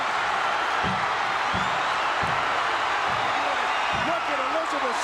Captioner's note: audience cheering